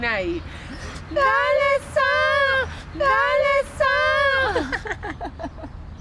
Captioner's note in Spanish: risas